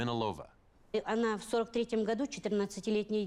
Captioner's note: speaking Russian